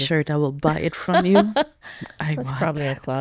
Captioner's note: laughing